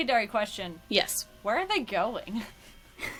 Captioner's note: laughs